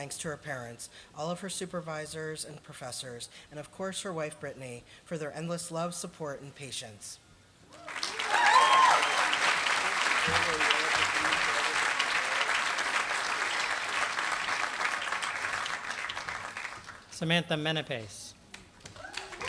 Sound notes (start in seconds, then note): 7.7 applause; 18.8 applause